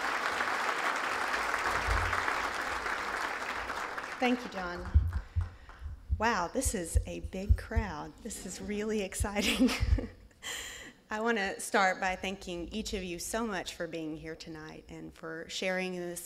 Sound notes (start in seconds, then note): 0.0 applause; 10.2 laughs